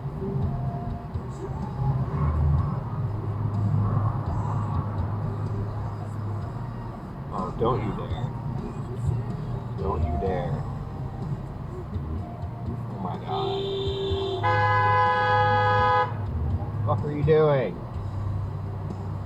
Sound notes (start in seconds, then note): 13.3 hooooonnnnk; 13.4 beeeeeep